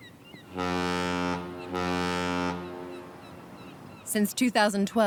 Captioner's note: ship horn blowing